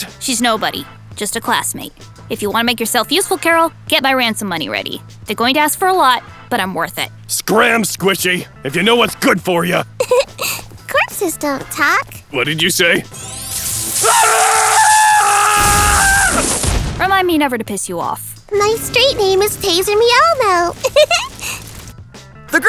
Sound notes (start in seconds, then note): 10.0 giggles; 13.2 screaming; 20.7 giggles